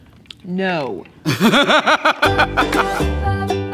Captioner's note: laughter